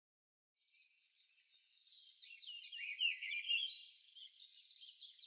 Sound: birds chirping

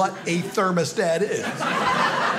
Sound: audience laughing

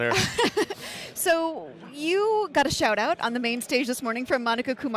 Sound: laughing

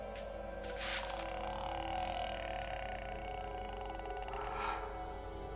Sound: croaking

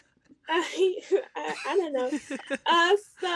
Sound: laughs; chuckles

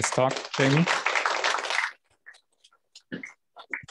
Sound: applause

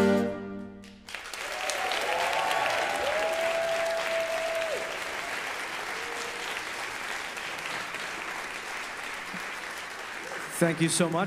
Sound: audience applause

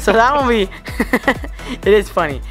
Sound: laughs

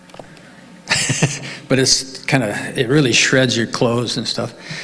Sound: laughs

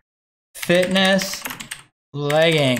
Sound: computer keys

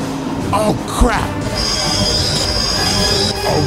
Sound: brakes squealing

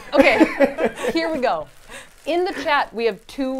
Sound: laughs

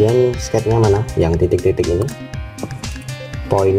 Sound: click

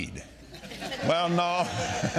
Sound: all laughing

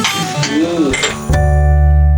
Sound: sound of glasses

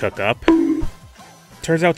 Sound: bonk

